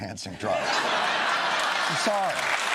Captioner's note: laughter